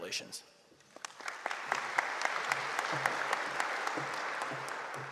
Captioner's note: audience applauding